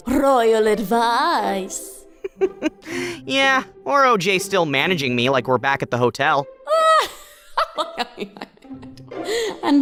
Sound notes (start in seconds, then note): 2.2 laughs; 7.0 Cabby laughs